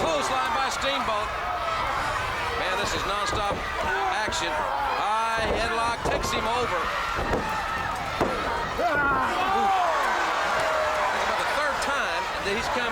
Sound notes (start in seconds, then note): 6.6 crowd cheering